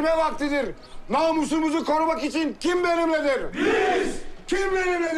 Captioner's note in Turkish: Hep bir ağızdan